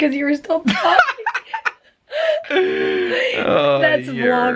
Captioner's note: both laughing